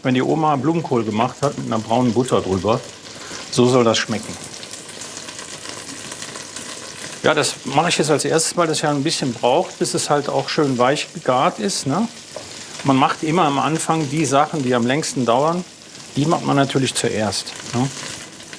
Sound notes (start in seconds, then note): 5.2 sizzling